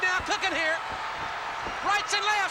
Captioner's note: crowd cheers